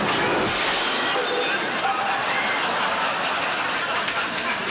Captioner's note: thudding; audience laughing